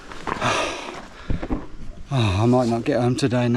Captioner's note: huffs